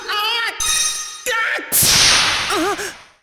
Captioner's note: pained cry; pained cry